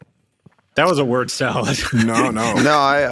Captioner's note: chuckles